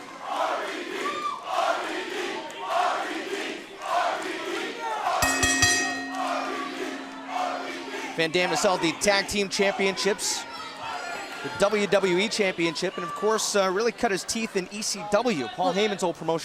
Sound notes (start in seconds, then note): 4.1 fans chanting; 9.8 bell ringing